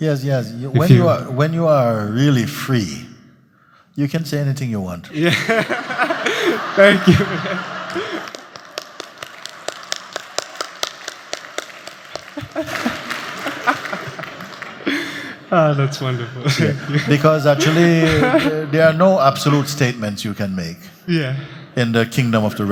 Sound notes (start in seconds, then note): 8.4 laughter; 9.4 laughter and clapping